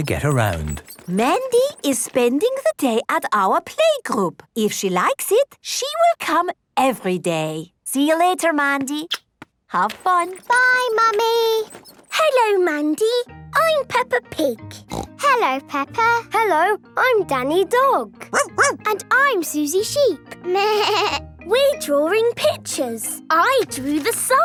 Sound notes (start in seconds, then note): 14.8 snorting; 18.3 barking; 20.6 bleating